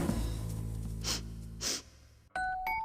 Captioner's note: sniffing